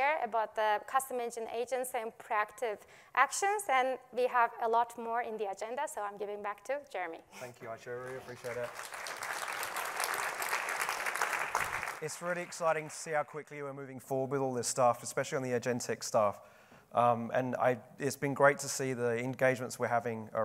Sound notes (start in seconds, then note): 7.9 applause